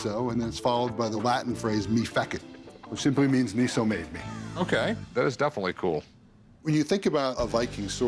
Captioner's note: none